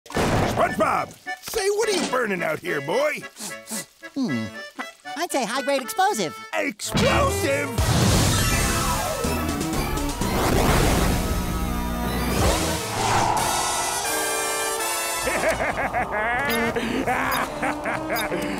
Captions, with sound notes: SpongeBob say, what are you burning out here, boy? [sniffing] Hmm. I'd say high grade explosive. Explosive?! [electronic music playing] [laughing]